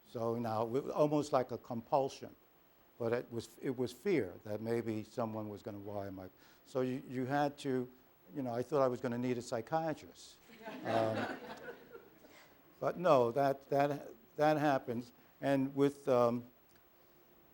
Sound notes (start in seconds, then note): 10.4 laughter